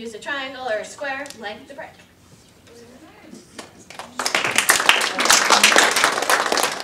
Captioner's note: audience applause